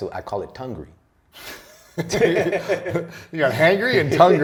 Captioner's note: laughter